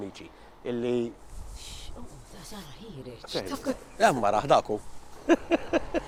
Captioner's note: chuckles